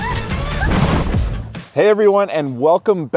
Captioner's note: bicycle crashes; riders shouting; water splashing